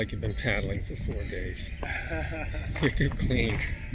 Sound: laughter

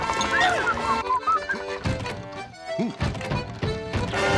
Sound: gasping; whistling

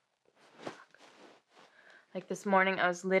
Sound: furniture rustling

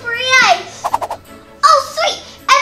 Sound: fast comical whooshes

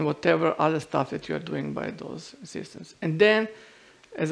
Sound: none

